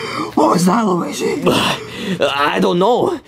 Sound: both panting

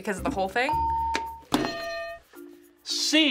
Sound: hitting bell; ding

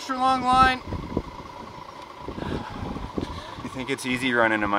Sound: wind howling

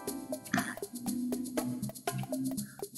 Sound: snrks

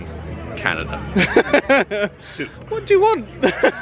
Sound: laughing

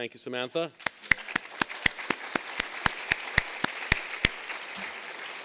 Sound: applause

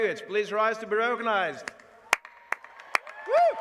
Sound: applause

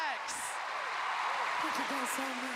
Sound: cheers and applause

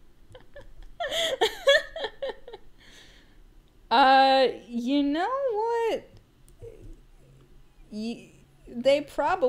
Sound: laughing

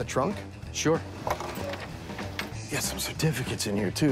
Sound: none

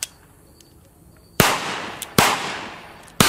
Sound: gun fires

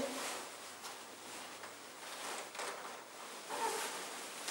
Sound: cloth rustling

